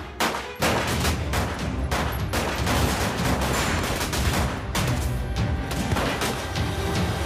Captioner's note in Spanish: Disparos